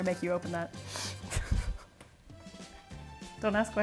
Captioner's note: giggles